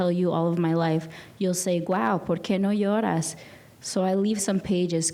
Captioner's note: speaking in a foreign language